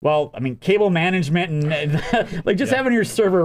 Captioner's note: chuckles